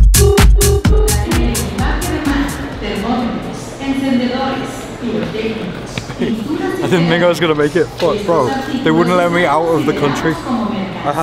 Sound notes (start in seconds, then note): 0.9 generic airport announcements